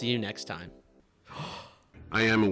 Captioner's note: Knuckles inhales